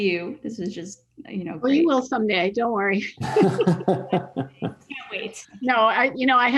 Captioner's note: laughs